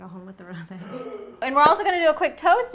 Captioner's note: gasp